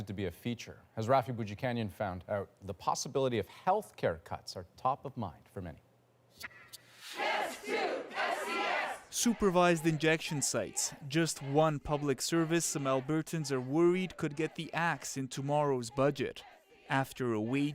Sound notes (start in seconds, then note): 13.1 chants